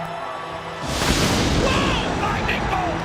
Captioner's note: lightning roars; audience cheers